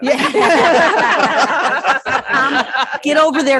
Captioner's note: all laugh